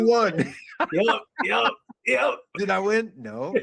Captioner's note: laughing